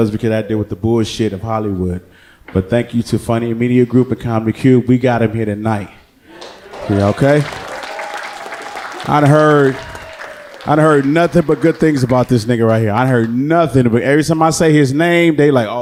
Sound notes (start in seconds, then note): 8.1 audience clapping